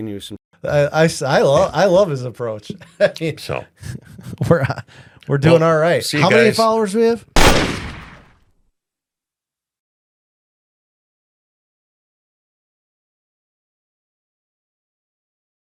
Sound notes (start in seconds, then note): 3.4 laughs; 7.3 sound of gunshot